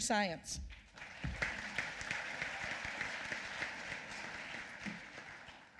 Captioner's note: applause